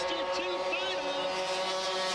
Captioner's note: engines whirring